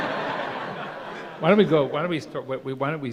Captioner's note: laughter